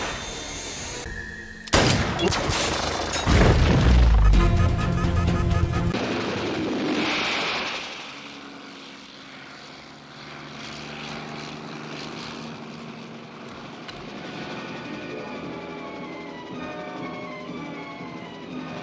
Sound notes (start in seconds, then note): 1.7 gunshot, metal clinking; 1.7 helicopter noise, explosion; 4.0 frantic beeping; 5.9 helicopter noise